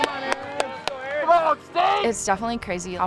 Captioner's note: cheering